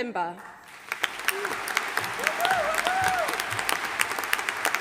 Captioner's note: audience applauding